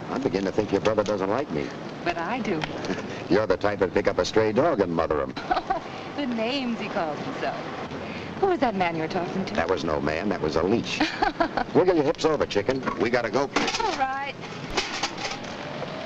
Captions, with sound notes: I'm beginning to think your brother doesn't like me. - But I do. - (laughs) You're the type that'd pick up a stray dog and mother 'em. - (laughs) The names he calls himself. Who was that man you were talking to? - That was no man, that was a leech. (Ann laughs) Wiggle your hips over, chicken. We gotta go. - All right.